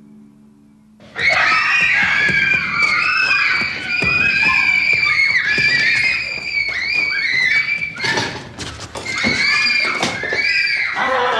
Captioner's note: screaming